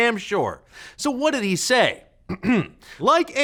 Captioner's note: clears throat